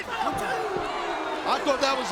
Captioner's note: crowd oohing